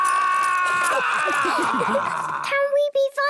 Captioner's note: all laughing